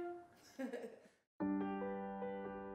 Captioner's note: laughs; gentle piano music